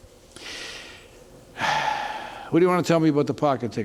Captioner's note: deep sigh